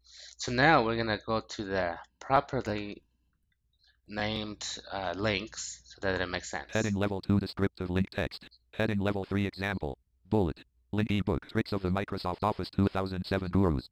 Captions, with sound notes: So now we're going to go to the property named links so that it will make sense. >> >> [ screen reader voice ] Heading level two. Descriptive link text. Heading level three. Example. Bullet. Linked e-book Tricks of the Microsoft Office 2007 Gurus.